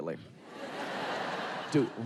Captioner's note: audience laughing